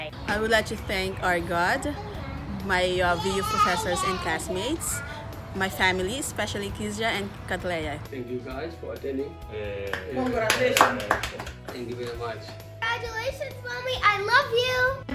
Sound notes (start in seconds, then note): 9.8 all clapping